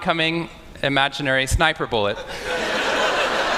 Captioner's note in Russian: Смех